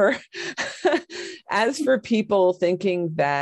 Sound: laughs

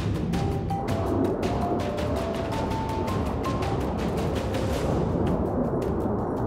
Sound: jet engines

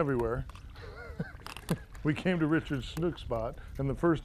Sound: laughter

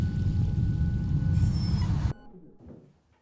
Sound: dog whimpers

